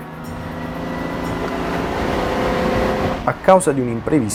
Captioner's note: engine roaring